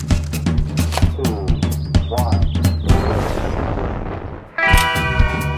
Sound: rocket launching

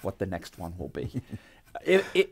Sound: laughing

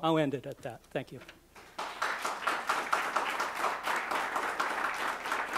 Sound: applause

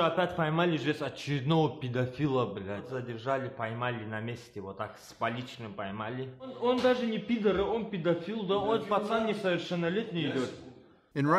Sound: speaking russian

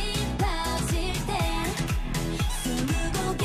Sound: fanchant

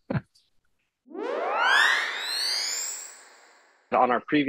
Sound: high pitched whirl

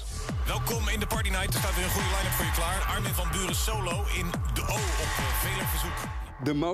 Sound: intense beat; speaks in foreign language

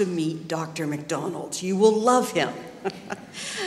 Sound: laughter

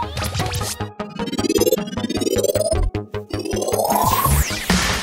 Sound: powering up; mystical electronic whooshing

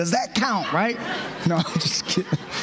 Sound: laughter

